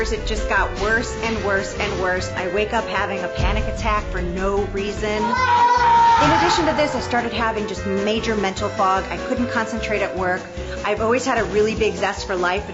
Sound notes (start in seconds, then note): 5.2 screaming